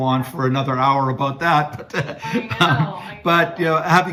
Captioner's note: laughing